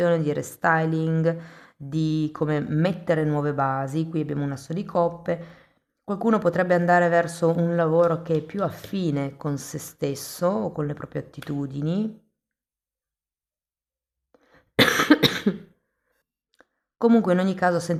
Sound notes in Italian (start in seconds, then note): 14.8 tosse; 14.8 schiarire la voce